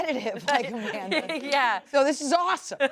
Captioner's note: laughs